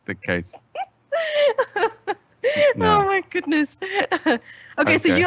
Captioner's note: laughing